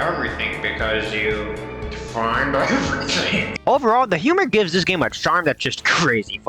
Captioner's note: laughing